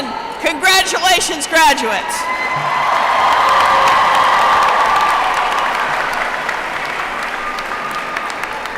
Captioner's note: applause